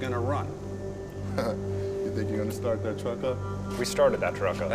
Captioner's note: chuckles